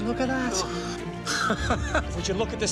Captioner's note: man laughing